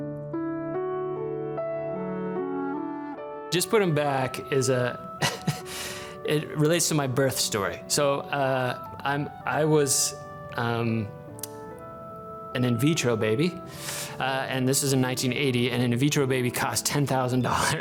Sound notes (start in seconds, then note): 0.2 calm music; 5.2 laughing